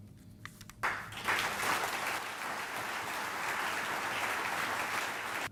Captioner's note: audience applauding